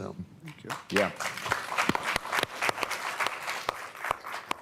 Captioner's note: applause